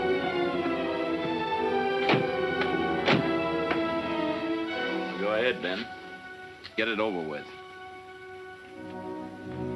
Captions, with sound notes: (door closing) - Go ahead, Ben. Get it over with.